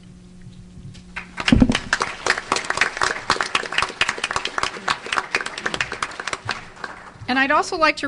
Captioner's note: audience Applause